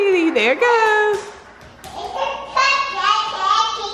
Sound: baby talk

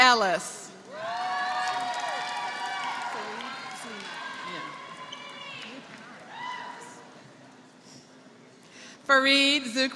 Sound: applause

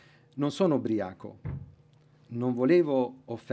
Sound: speaking italian

